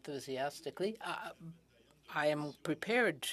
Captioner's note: speaking in french